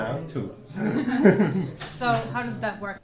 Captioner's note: laugh